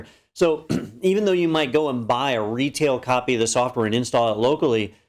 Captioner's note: cough